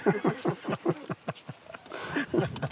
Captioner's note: Sie lachen